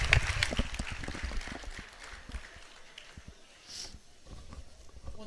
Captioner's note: audience claps